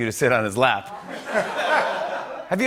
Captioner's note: laughter